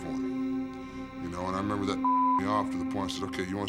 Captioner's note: beeps